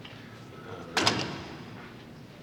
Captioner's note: mumbles